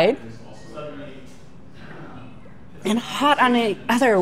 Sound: customers chattering

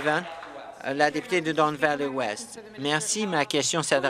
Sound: applause

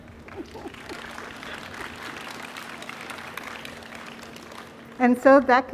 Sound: audience applauding

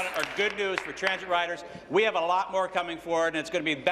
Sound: applause

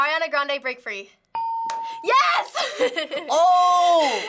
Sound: ding; hitting bell; giggling

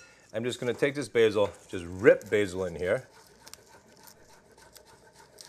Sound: none

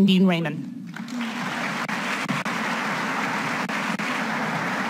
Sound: audience applauds

